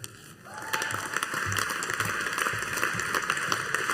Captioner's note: audience applauding